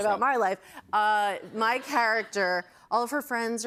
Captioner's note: laughter